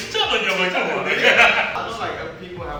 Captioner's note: all laughing